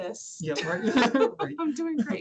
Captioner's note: laughter